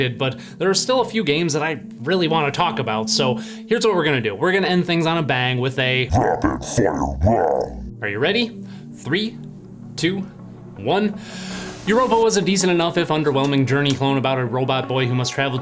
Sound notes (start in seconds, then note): 11.2 deep breath